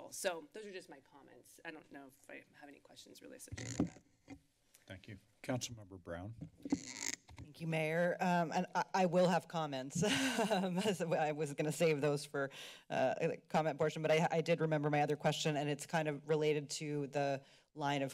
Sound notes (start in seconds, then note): 6.3 mic squeaks; 10.0 laughter